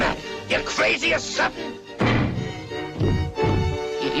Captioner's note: professor thudding